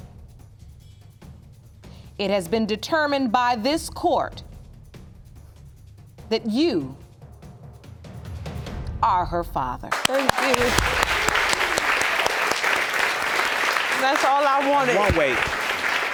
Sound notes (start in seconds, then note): 9.9 audience applauding